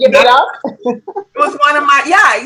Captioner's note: laughing